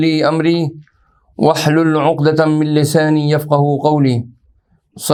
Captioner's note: arabic